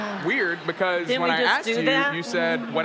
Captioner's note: audience laughs